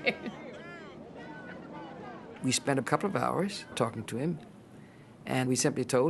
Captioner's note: laughter